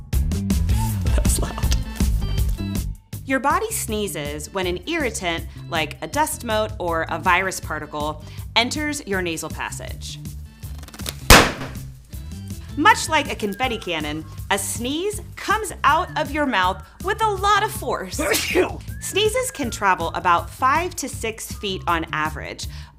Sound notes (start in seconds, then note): 0.2 laughs; 11.2 loud pop; 18.2 sneeze